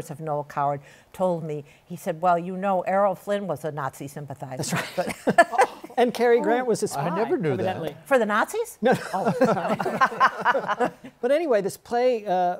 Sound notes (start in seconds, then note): 8.8 laughter; 8.9 laughs